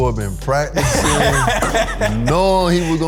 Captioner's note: laughing